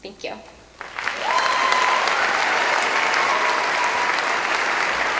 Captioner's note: applause